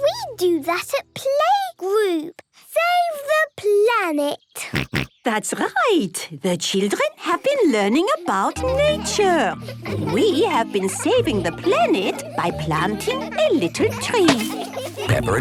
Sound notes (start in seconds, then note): 4.7 snorts